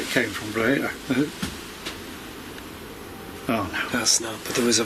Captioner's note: soft thumping